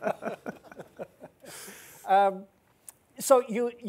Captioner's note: laughing